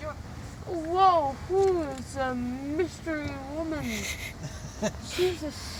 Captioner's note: giggles